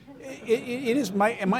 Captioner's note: audience laughing